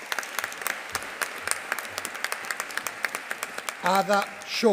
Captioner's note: audience applauding